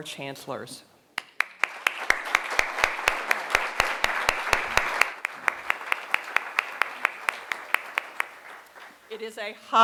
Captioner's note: applause